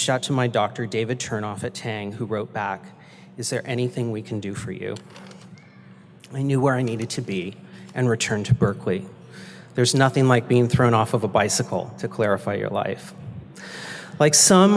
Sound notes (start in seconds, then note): none